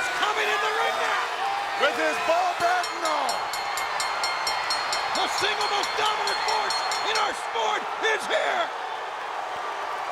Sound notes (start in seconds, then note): 2.5 bell ringing